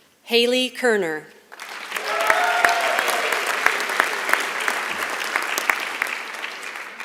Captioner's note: applause